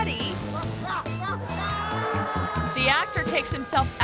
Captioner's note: actor screaming